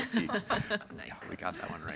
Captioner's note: panelists laugh